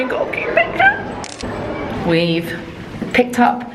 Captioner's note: camera clicking